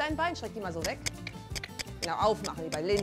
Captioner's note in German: Schnalzen